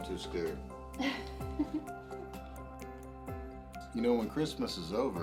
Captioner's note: Noel giggles